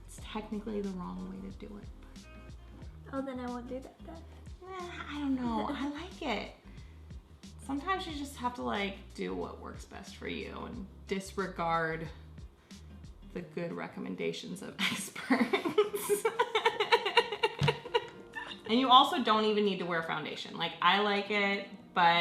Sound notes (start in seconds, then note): 15.3 laughs